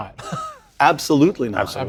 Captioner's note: laugh